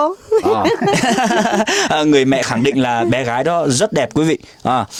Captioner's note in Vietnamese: tiếng cười